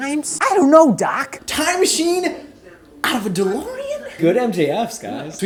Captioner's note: imitating MJF